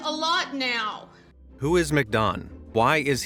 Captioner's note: in normal voice